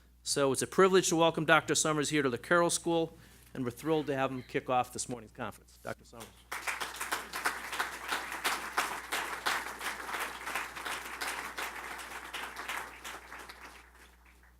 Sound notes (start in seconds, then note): 6.2 applause